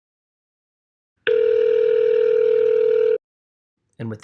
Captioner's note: call ring-back tone